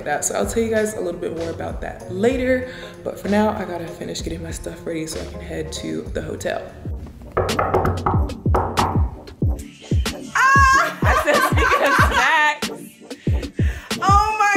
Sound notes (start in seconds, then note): 7.4 knocking; 10.4 laughter drowns out